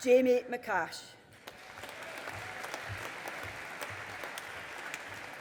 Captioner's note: audience applauding